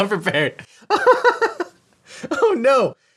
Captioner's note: he laughs